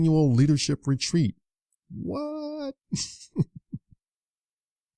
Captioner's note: chuckles